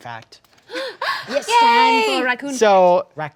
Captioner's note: gasps